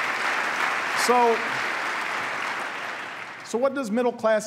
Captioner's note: applause